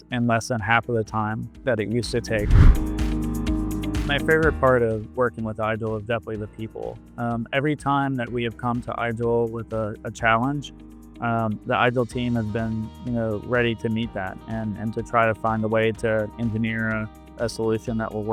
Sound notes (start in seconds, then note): 2.1 upbeat music continues; 2.2 air whooshes